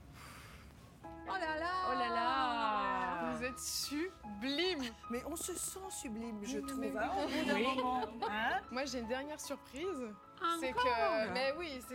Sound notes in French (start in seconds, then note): 0.9 en choeur; 7.3 rires